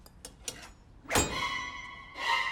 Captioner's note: whack